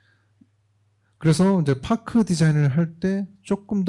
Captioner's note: speaking korean